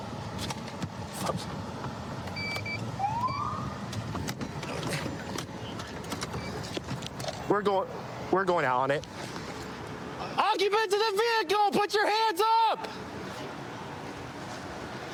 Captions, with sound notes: [siren chirps] We're going. We're going out on it. Occupants of the vehicle, put your hands up!